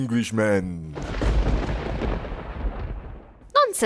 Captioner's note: thunder claps